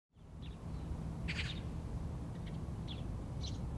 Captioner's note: birds chirping